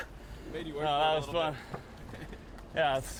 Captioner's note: laugh